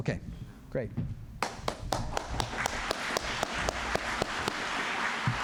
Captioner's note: applause